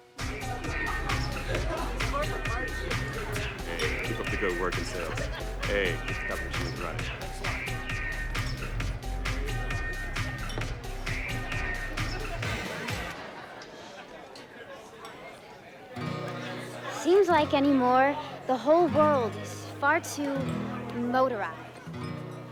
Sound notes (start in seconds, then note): 0.1 rock music; 6.3 indistinct conversation